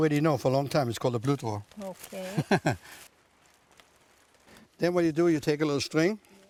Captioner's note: laughs